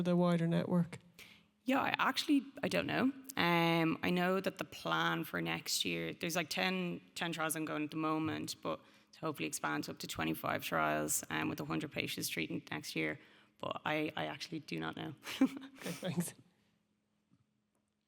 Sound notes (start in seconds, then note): 15.3 chuckles